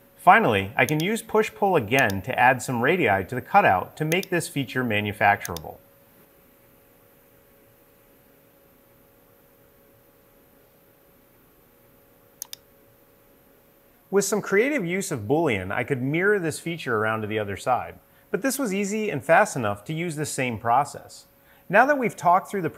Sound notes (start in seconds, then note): 12.4 mouse clicking